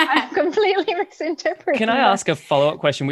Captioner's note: laughter